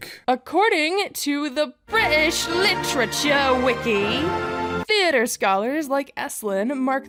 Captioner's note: in a worse accent